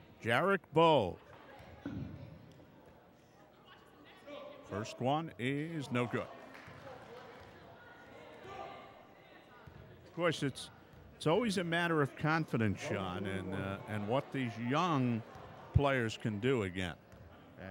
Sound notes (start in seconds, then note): 6.4 clapping; 6.5 yelling